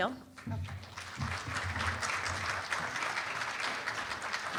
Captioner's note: applause